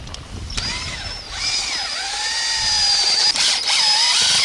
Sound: whirring

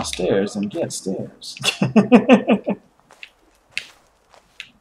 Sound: chuckles

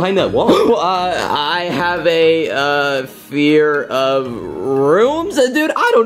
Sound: gasps

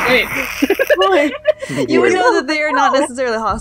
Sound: laughter

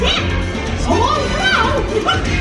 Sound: chuckles; upbeat music continues

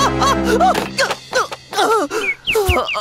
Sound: clanking sound; bird chirping

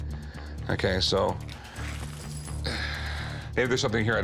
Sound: sighs

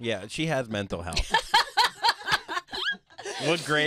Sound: laughing

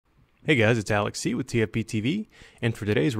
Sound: voiceover

